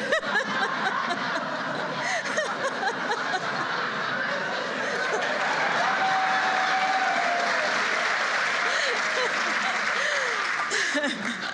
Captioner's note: laughter and applause